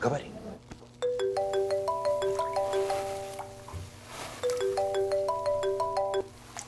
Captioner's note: phone ringing